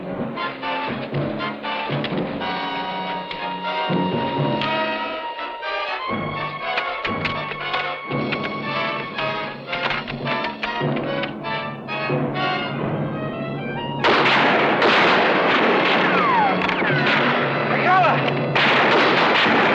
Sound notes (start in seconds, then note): 14.0 guns firing